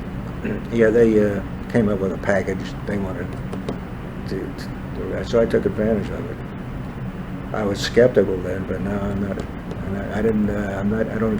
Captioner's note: laughs